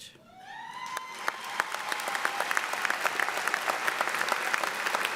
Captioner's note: audience applauding